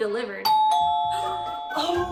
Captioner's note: doorbell